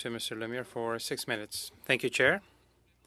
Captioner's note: speaking French